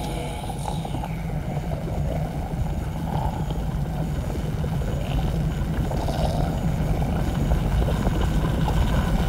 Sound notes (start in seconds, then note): 0.0 eerie chime reverberates; 0.0 disembodied growling; 2.8 eerie, distorted buzzing